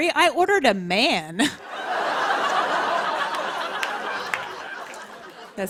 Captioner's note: laughter